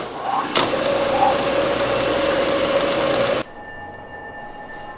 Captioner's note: machines whirring